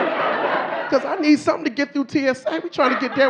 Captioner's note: audience laughing